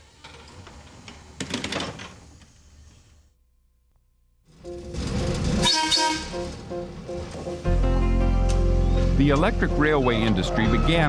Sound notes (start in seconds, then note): 5.4 trolley whistle blowing; 8.0 soft music